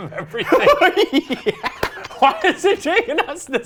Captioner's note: laughs